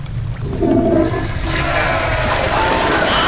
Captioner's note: toilet flushing; soldiers scream